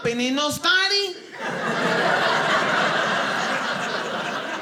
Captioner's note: audience laughing